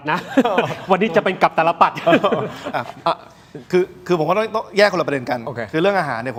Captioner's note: laughter